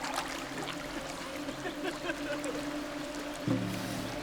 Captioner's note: giggling